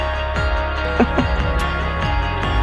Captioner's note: Helen laughs